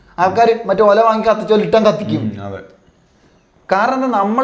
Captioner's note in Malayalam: തൊണ്ട ശരിയാക്കുന്നു